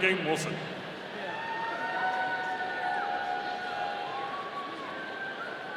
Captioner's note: audience cheering